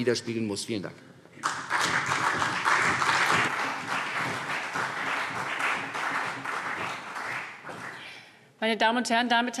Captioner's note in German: Beifall CDU und vereinzelt BÜNDNIS 90/DIE GRÜNEN